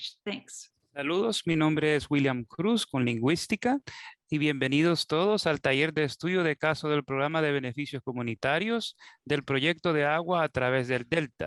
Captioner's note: spanish